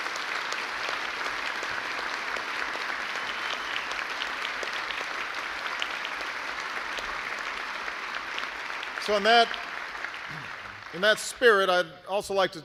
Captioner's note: applause